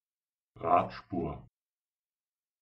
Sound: fast Pronunciation

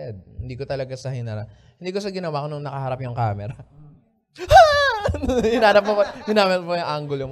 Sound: laughter

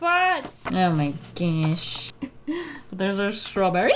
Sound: chuckles in despair

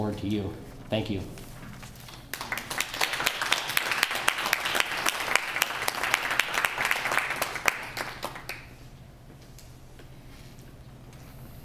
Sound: applause

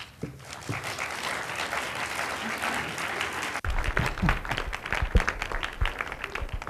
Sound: audience clapping

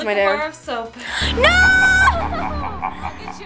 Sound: evil laughing

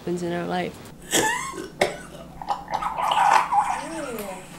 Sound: coughing

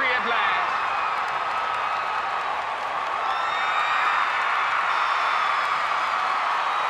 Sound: cheers and applause

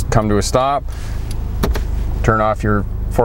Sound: click sound

